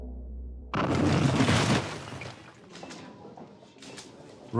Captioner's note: explosion